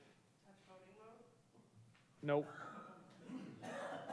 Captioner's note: staff members murmur